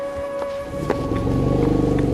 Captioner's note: animals calling; elephant rumbles